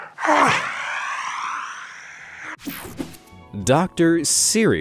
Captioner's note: Benedict hissing